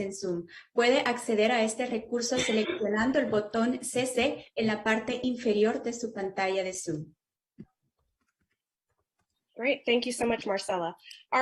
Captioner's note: speaking spanish